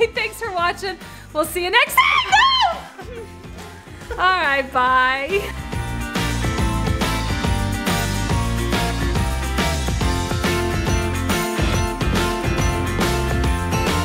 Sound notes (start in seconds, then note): 1.9 woman screams; 5.6 upbeat music